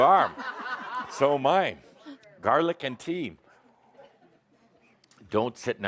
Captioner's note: laughter